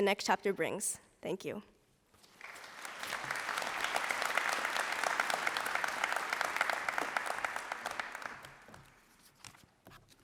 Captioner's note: applause